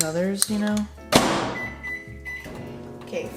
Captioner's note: slams microwave